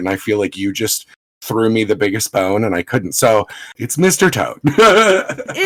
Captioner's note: laughs